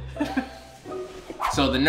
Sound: laughing

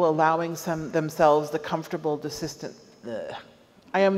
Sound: stammers

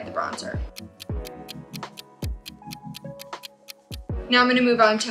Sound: clock ticking

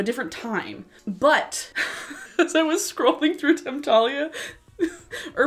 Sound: laughs

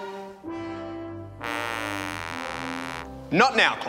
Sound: sad trombone sound

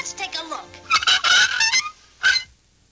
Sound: hinge squeaks

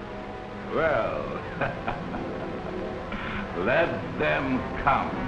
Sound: laughing

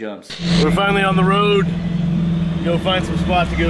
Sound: static sound

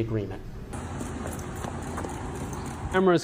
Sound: sounds of footsteps as Vallow exits the courtroom

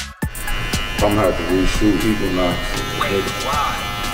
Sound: hair cutting machine whirs

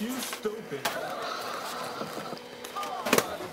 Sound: audience laughs

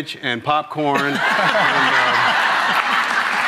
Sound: audience laughs

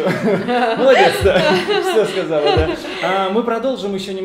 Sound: laugh

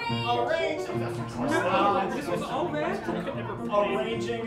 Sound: Humorals All Stammering Over Each Other

